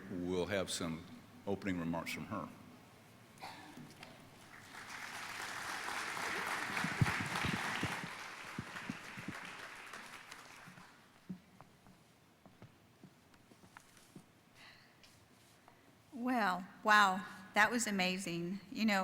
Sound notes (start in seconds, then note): 4.4 audience applauding